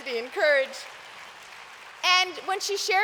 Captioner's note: applause